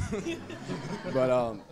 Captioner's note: audience laughing